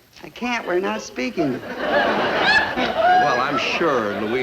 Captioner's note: audience laugh